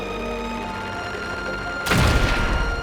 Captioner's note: cracking